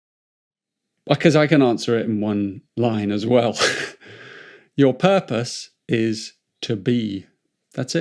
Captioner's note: chuckles